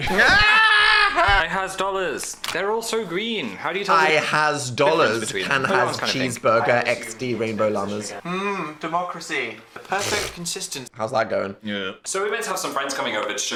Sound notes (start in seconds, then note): 0.0 Dan laughs; 10.1 Dan scoffs